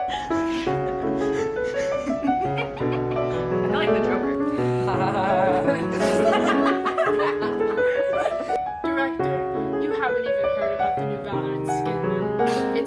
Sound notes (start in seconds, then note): 0.0 laughing; 4.7 everyone laughing